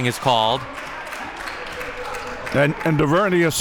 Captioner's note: audience clapping